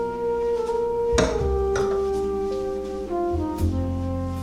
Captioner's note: object thuds